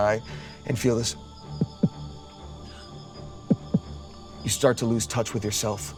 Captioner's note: imitates heartbeat